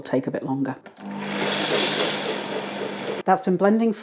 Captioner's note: blender roar